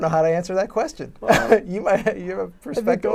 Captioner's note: laughs